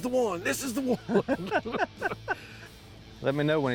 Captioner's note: laughs